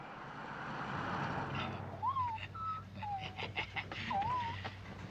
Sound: Sally whimpering

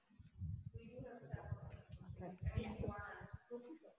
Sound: murmuring

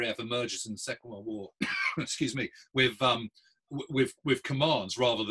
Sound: coughs

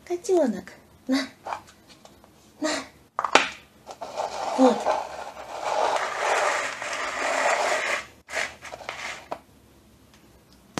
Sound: the sound of the movement of the bowl on the floor

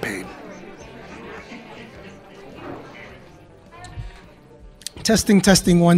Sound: crowd sounds, people talking

